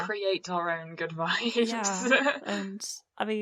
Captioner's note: laughs